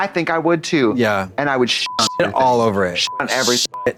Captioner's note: beep